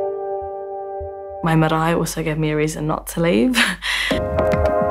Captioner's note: chuckles; upbeat music